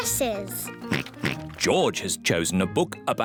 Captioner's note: oinks